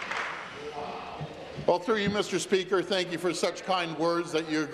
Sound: applause

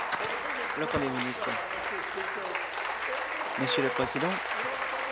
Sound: applause

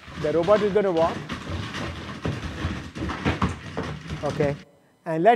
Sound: feet clatter

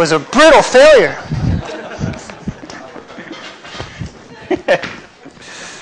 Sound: laughter

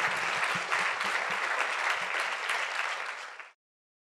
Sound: audience applauds

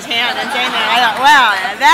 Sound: laughing

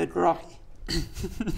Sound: ahem

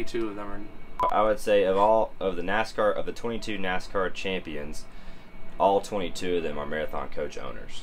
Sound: beep!

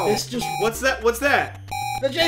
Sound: alarm

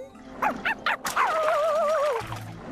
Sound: barks, howls

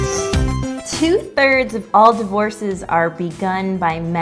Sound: voiceover

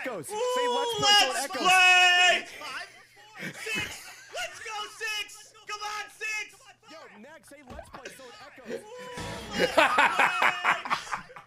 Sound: laughs

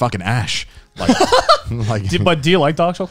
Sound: laughing

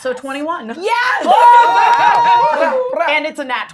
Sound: gamers cheering

